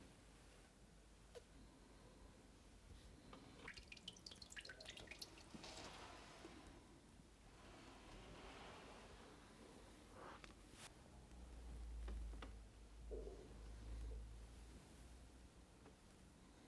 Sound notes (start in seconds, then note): 3.5 water trickling